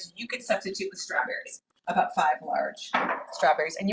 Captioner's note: none